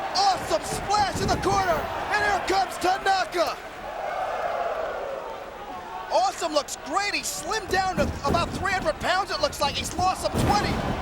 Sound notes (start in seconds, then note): 4.1 crowd exclaiming